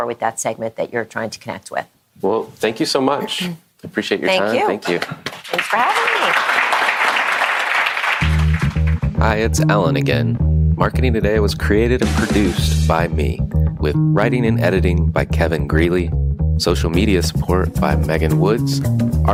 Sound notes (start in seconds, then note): 4.9 audience applauding; 8.3 lively funk-jazz music